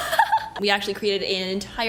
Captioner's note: laughs